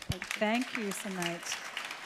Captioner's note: audience applause